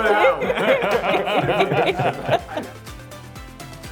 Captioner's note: group laughs